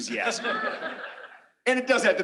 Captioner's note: laughter